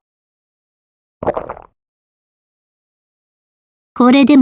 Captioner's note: vored sfx